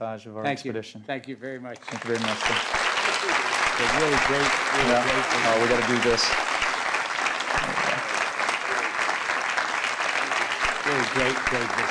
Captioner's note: applause